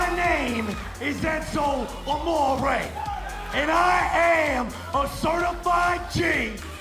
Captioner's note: crowd cheering